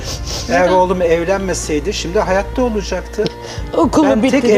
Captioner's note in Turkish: homurdanır